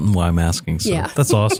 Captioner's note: laugh